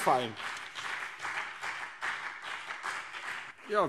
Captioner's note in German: Beifall BÜNDNIS 90/DIE GRÜNEN und CDU